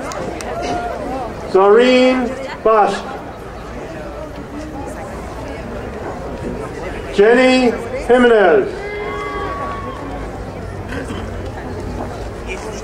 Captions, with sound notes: Zarim Basch. Jenny Jimenez. (crowd cheering)